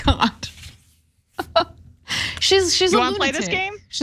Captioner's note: laugh